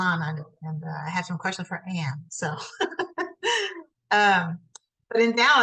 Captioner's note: laughs